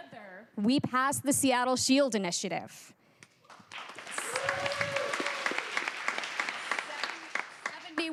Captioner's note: cheers and applause